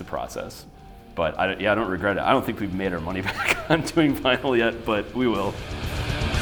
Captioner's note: laughs